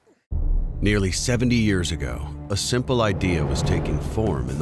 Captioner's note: voiceover